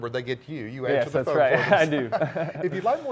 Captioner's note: laughs